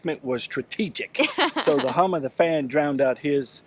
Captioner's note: laughs